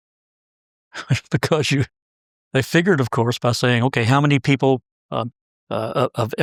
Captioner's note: laugh